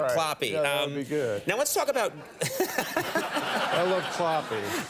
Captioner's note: audience laughing; Conan laughing